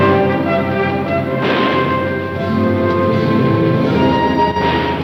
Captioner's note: dramatic music; guns firing